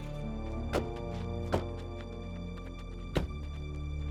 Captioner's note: doors slam